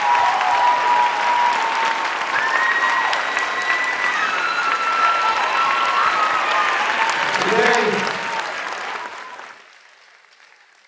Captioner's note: applause